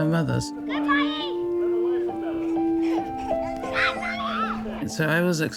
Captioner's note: children shouting